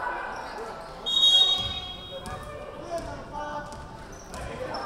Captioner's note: whistle blowing